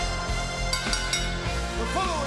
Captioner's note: bell rings